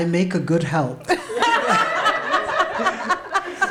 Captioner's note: laughter